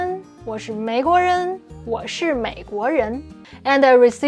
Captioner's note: speaking in Mandarin